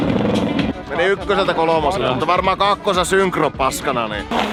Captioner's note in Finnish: moottorin pärinää